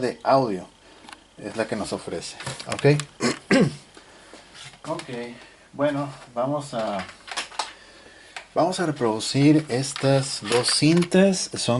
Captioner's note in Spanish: carraspeo